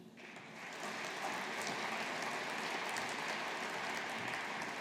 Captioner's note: audience applauding